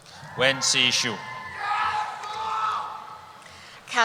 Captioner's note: cheering